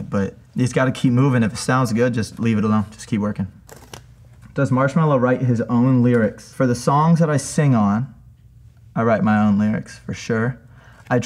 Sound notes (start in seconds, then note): 3.6 sticker rips